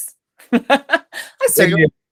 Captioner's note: laughs